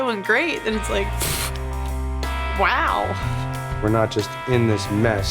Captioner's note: loudly huffs